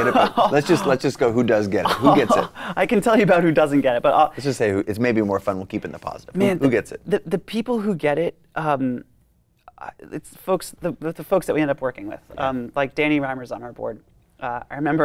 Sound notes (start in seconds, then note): 1.8 laughs